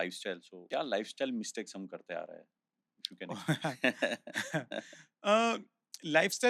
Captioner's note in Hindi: हंसी